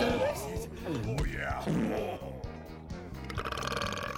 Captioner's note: belches